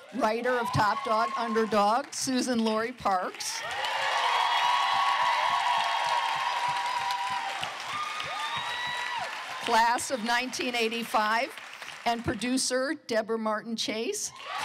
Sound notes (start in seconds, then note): 3.1 cheering